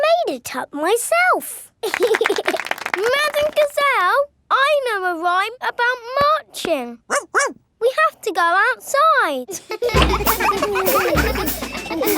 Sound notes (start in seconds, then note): 1.8 laughing and clapping; 7.1 barks; 9.5 children laughing